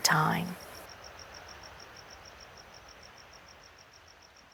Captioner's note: crickets chirping